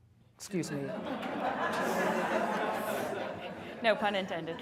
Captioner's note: laughter